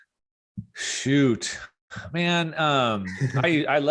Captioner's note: breathes deeply